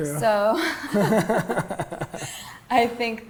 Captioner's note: both laugh